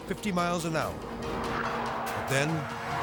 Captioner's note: tire screeching